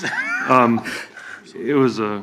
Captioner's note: laughs